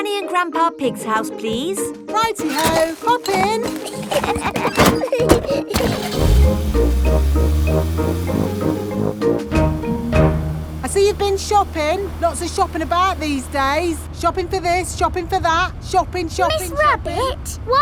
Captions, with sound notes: Granny and Grandpa Pig's house, please. -Righty-ho! Hop in. -(LAUGHING) (CAR ENGINE STARTS) I see you've been shopping. Lots of shopping about these days. Shopping for this, shopping for that. Shopping, shopping, shopping...